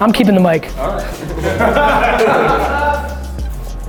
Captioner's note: laughter